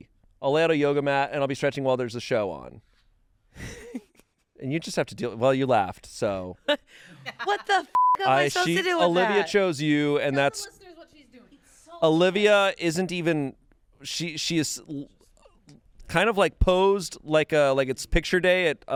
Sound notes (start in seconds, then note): 3.6 laughs; 7.9 beep